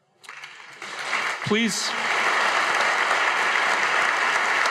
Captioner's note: audience applauding